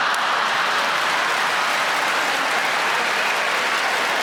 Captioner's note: audience laughing